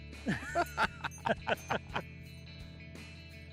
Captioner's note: both laugh